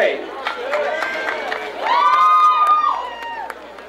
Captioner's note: crowd cheering